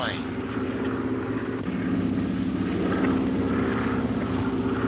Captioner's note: airplane engine roaring